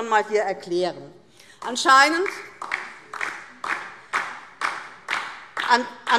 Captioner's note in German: Beifall